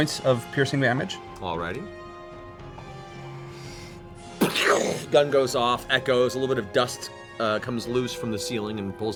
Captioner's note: gunshot sound